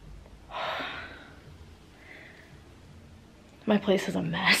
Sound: sighs

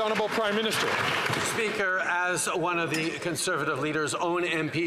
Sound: some Applause

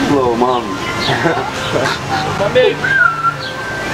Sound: giggles; whistle

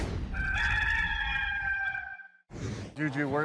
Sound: rooster crowing

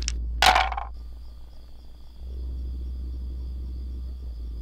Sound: dice thumping

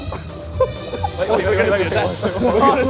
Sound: laughter

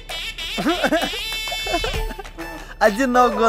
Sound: sarcastic laugh

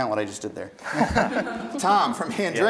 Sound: contestants laughing

